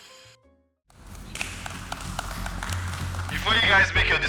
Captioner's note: applause